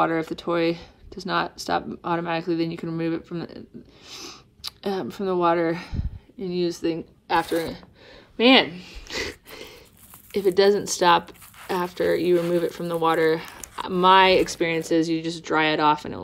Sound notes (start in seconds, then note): 7.9 laughs